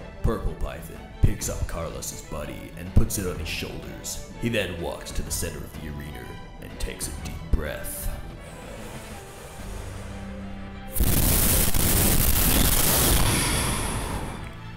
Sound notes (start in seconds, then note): 8.3 inhales; 10.9 exhales lightly